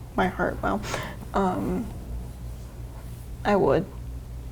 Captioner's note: none